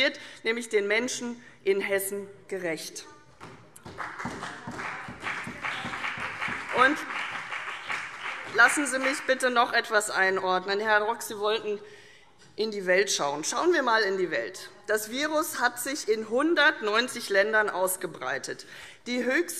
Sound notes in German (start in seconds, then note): 3.8 Beifall CDU und BÜNDNIS 90/DIE GRÜNEN